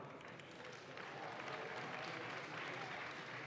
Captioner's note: audience claps